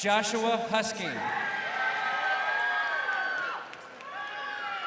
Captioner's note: crowd cheering